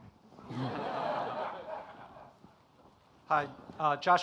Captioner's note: audience laughing